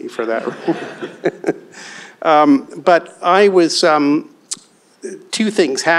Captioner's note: laughs